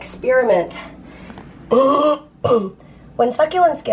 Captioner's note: clearing throat